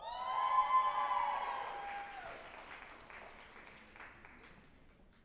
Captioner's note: group applauding and cheering